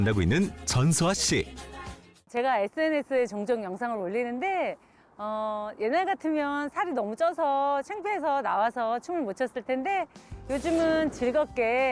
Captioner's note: voiceover